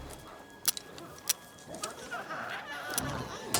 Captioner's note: rocket launcher clicking; glowzies growling